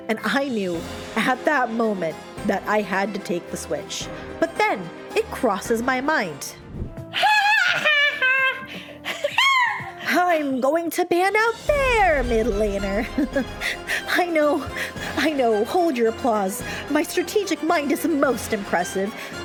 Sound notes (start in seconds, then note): 7.3 drunk laughing and seagull noises; 13.1 chuckle